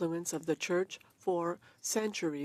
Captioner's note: speaking French